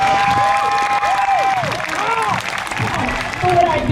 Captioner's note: crowd cheers